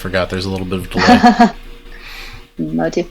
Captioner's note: laughs